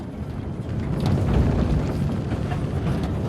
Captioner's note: rumbling